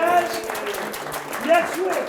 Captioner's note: applause